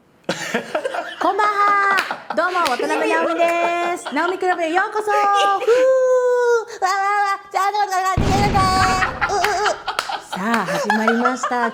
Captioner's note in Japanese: 爆発音